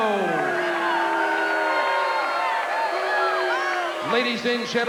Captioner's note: crowd cheering and booing